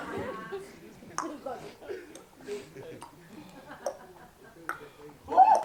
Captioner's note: tick tock tick tock; startled yelp from chef